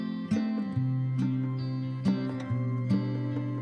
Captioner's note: none